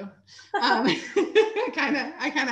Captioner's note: chuckles